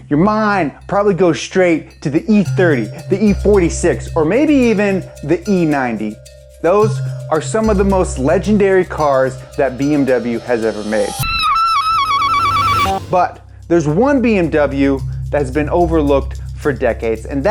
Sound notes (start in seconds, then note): 11.3 ululating